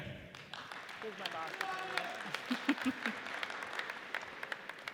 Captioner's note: audience cheers